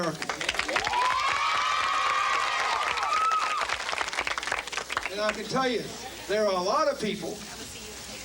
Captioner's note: cheering and clapping